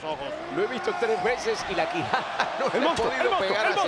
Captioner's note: laugh